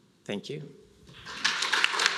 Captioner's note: applause